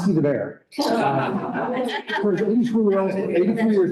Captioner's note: laughter